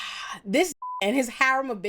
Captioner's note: beep